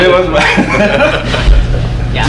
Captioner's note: laughs